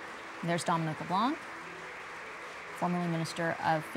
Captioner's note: applause